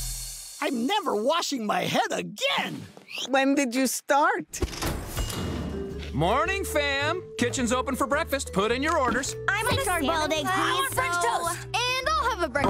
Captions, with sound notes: I'm never washing my head again. When did you start? Morning, fam. Kitchen's open for breakfast, put in your orders. [chattering] I want french toast. And I'll have a breakf--